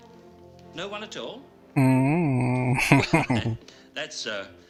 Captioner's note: laughing